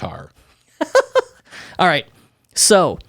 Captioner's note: laughs